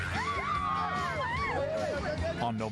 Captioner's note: screaming